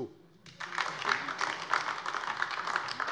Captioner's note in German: Beifall DIE LINKE